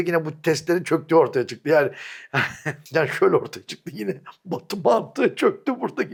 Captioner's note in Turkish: kahkaha